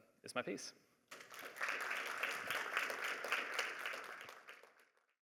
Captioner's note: applause